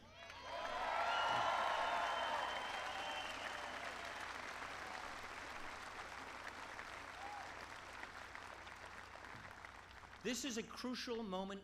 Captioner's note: applause